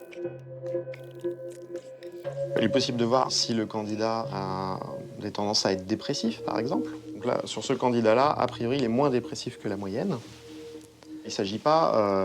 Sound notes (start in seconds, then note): 2.7 speaking in foreign language